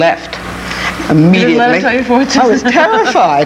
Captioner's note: chuckles